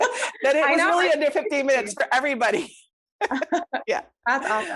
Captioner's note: laughs